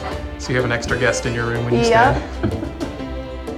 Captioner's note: laughs